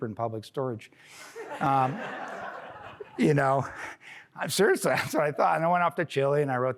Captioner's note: laughter